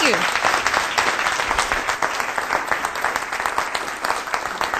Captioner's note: applause